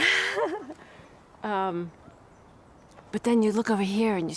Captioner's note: chuckles